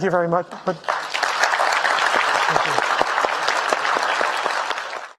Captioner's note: audience applauding